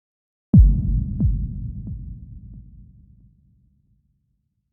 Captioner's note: low thumping